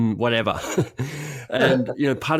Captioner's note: laughing